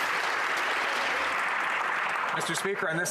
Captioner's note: some Applause